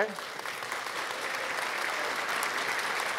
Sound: applause

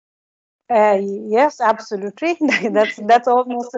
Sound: chuckles

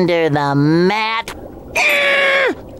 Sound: screaming

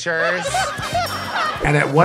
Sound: contestants laughing

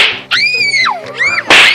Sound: screams

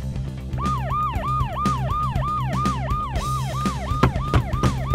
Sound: sirens blaring

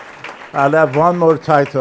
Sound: applause

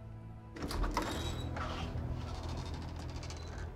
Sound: door opening

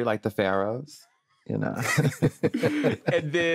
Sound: all laughing

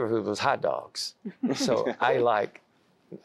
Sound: laughter

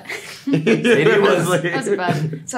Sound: all laugh

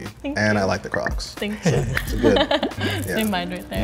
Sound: laughs

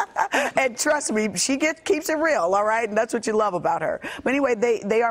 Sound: laughter

